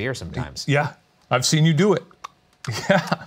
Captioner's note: lapping; laughs